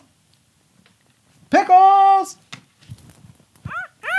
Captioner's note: shouting